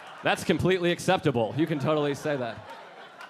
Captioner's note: audience laughing